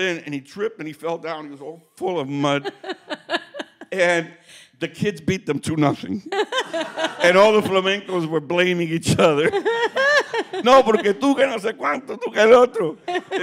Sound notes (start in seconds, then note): 2.5 laughing; 6.3 group laughing; 10.4 speaking Spanish